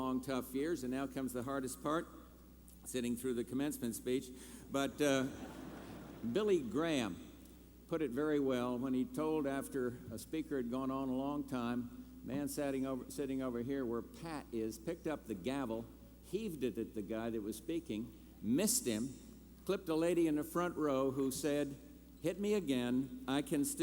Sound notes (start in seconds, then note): 5.1 laughter